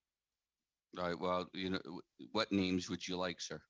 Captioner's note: speaking French